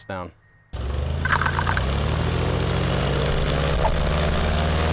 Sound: airboat motor roaring

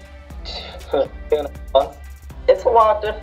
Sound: laughs

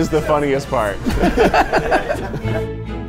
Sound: laughing; classical music

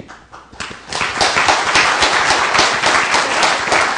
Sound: applause

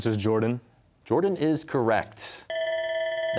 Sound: whispering; bell ringing

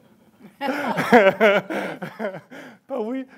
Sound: laughs

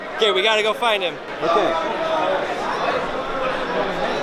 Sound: none

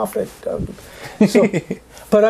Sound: laughs

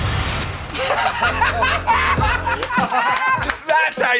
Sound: laughter

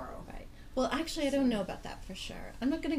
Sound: voiceover

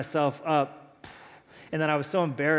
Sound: puffs

